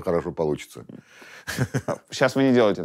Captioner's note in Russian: смеется